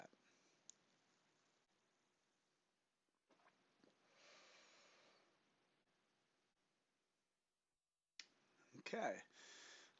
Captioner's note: silence